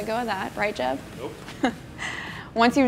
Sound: laughs

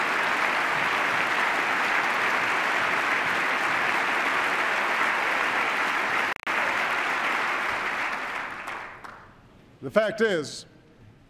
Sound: applause

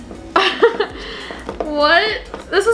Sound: laughs

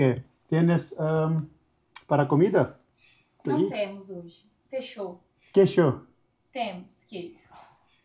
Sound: speaking in Portuguese

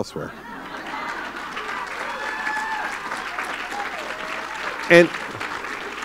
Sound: laughter and applause

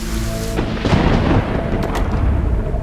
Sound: thunder rumbling

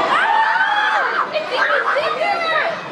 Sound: screams

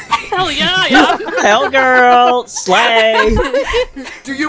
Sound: laughter

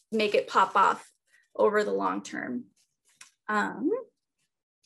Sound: tissue paper crinkling

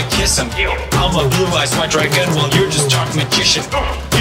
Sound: oof

